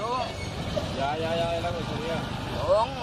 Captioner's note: officer speaks in foreign language